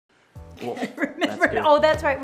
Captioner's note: laughs